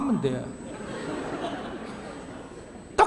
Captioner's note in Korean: 청중 웃음